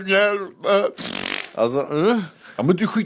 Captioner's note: fart noise